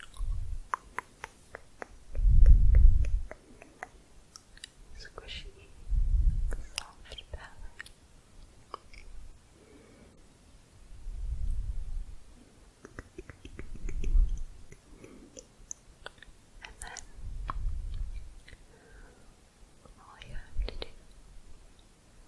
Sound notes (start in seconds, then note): 0.6 tongue clicking; 12.8 faster clicking